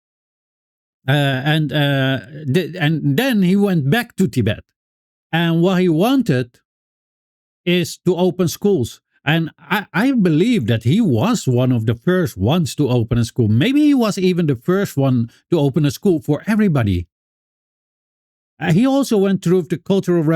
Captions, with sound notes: And then he went back to Tibet. And what he wanted is to open schools. And I believe that he was one of the first ones to open a school. Maybe he was even the first one to open a school for everybody. [Silence] He also went through the Cultural